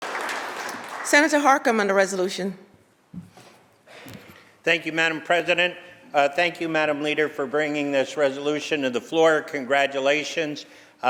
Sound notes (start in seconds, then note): 1.7 applause